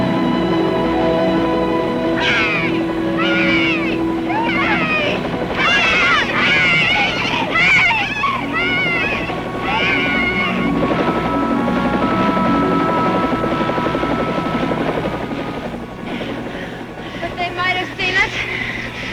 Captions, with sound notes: (gentle music) (Jimmy-Joe and Sue shouting) (helicopter engine roaring) (gentle music) Think they might have seen us?